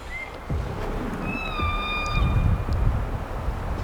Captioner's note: elk bugling